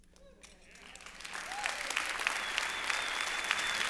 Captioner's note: applause